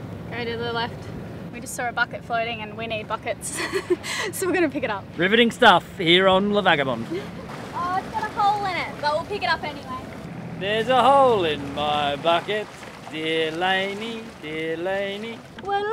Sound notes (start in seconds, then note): 3.5 giggles